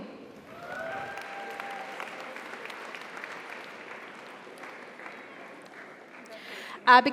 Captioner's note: audience applauds; audience cheers